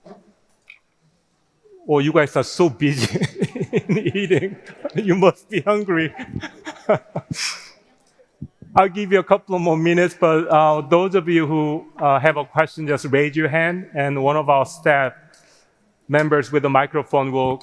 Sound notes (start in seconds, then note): 2.6 laughing